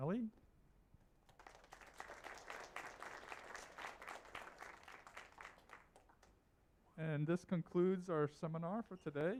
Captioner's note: applause